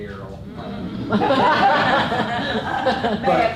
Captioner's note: laughter